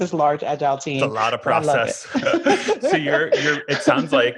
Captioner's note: laughing